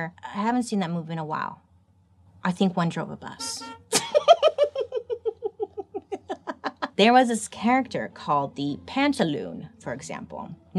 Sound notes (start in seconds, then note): 3.4 horn honks; 3.6 laughs